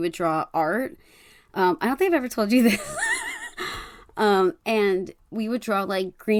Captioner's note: laughs